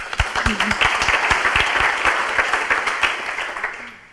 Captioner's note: audience applauds